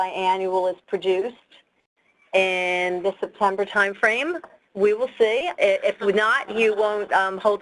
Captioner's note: people laughing